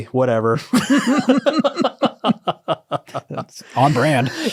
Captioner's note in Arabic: يضحكون